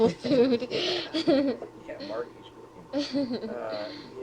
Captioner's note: both laugh